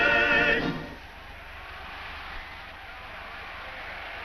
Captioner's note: crowd cheers